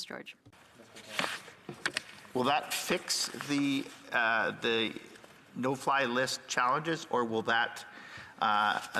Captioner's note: speaking French